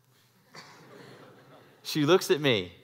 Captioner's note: laugh